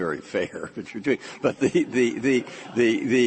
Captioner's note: laughter